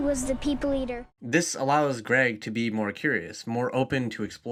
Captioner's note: voiceover